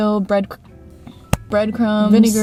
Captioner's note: smacks chest